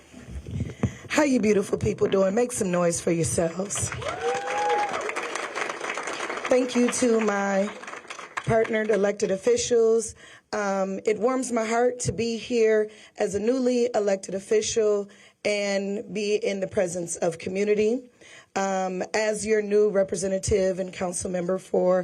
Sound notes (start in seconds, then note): 0.2 applause; 9.5 applause